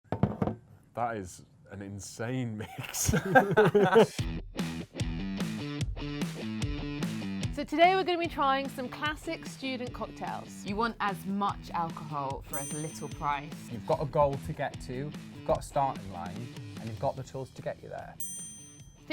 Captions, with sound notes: - That is an insane mix. (laughs) (upbeat music) - So today we're gonna be trying some classic student cocktails. - You want as much alcohol for as little price. - You've got a goal to get to, you've got a starting line and you've got the tools to get you there.